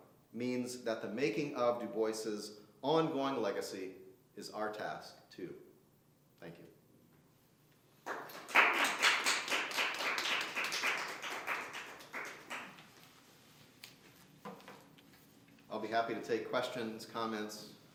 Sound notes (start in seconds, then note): 8.0 applause